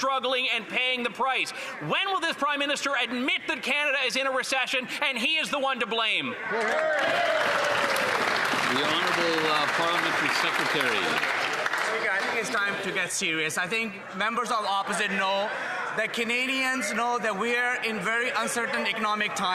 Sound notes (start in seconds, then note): 12.3 some Applause